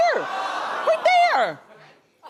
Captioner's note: audience gasps